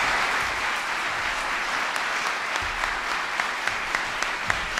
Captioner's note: applause